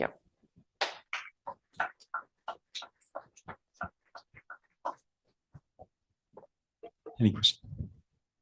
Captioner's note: applause